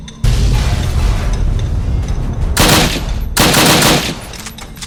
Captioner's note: BOOM! One of the car wrecks explodes, sending smoke and metal pieces everywhere!